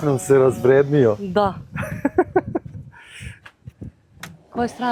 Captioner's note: laughter